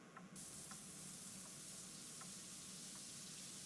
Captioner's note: shower running